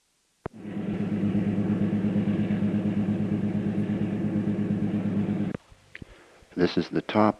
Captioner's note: sound of train moving